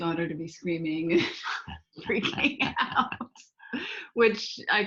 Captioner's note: laughing; laughs